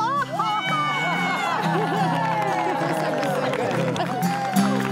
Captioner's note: cheers and laughter